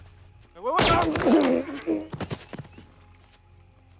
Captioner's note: gunshot